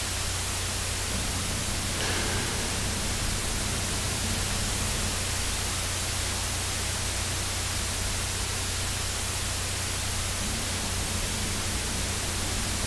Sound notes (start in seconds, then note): 0.8 electrical sound